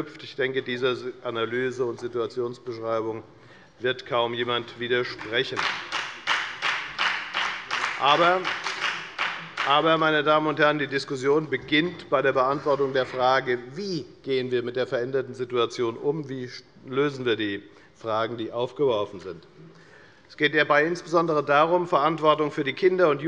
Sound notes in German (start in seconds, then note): 5.1 Beifall bei der FDP